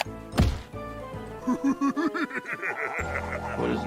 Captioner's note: Russell laughing sinisterly